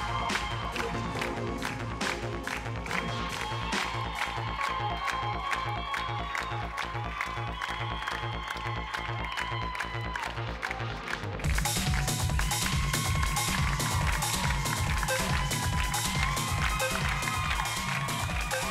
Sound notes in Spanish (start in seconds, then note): 3.9 Palmadas al compás; 11.6 Gritos y exclamaciones